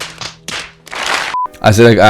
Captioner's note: claps thuds